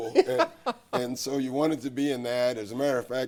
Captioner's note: laughs